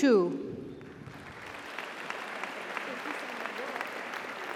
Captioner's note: audience applauds; audience cheers